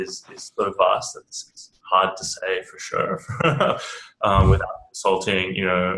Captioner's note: laughs